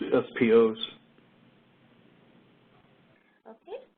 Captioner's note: 2 seconds pause